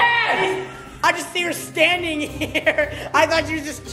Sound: laughs

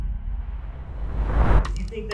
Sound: wind whooshing

